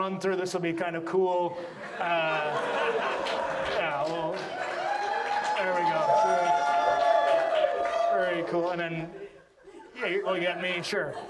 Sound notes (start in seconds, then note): 1.6 audience laughs; 8.1 audience cheers